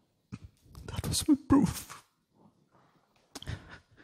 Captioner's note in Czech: Smutným hlasem; Vzlykání